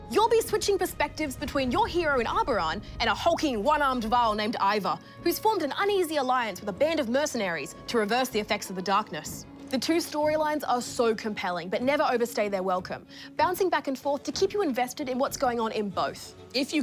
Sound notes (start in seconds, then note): none